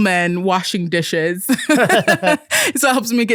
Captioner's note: both laughing